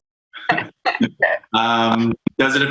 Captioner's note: laughs